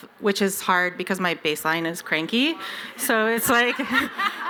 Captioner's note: laughter